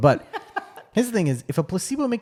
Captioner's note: laughs